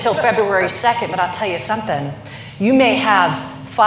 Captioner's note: laughter